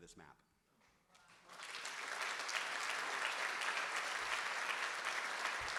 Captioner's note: audience applauding